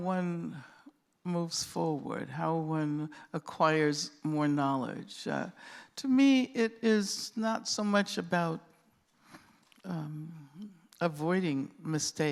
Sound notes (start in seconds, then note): none